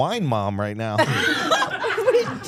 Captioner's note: everyone laughing